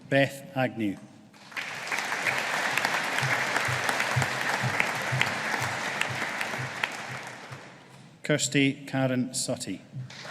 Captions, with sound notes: Beth Agnew. (AUDIENCE APPLAUDING) Kirsty Karen Suttie.